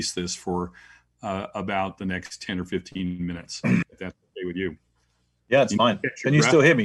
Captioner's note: cough